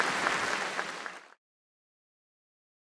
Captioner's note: applause